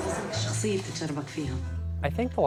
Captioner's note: female movie character speaking foreign language